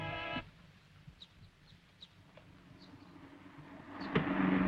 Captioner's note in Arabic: زقزقة العصافير